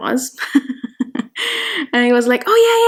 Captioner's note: laughing